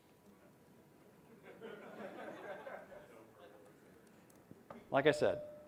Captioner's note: laughter